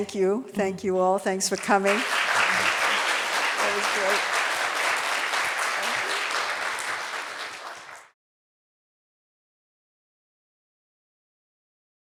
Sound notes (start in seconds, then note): 1.6 audience applauding